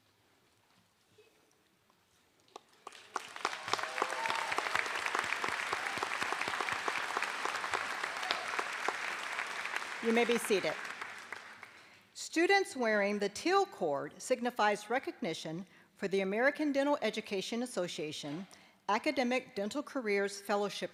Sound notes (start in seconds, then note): 8.1 applause